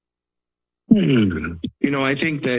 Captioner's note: clears throat